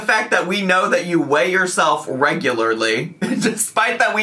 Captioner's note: laughing